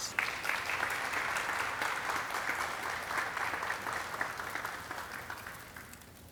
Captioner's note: audience cheering and clapping